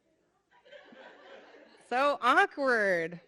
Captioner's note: audience laughing